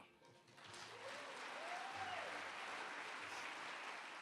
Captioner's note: applause